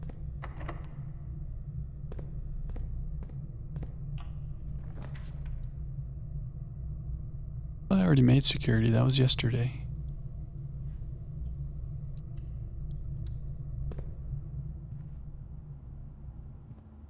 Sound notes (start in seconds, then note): 1.2 footsteps